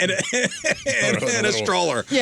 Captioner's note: laughing